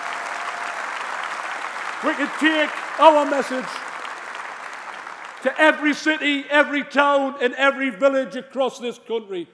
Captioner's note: applause; cheering